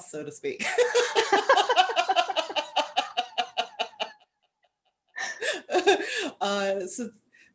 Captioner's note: laughter